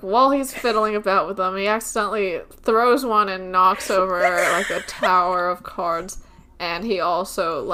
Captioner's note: laughing